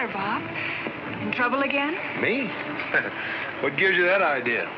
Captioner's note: laughs